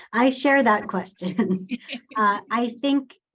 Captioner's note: laughs